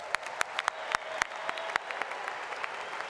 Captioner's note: applause